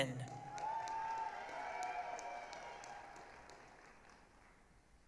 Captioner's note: applause, cheering